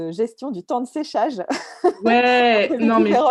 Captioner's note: laugh